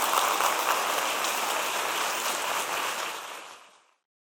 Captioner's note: applause